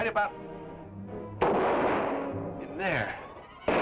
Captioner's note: gun fires